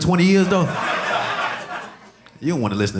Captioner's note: audience laughing